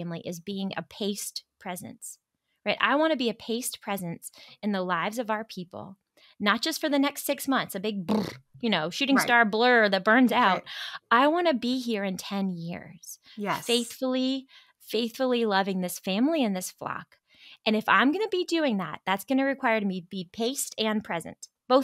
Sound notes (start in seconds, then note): 9.1 trills lips